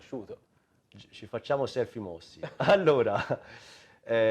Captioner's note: laughter